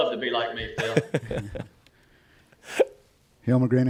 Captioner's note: Shane laughs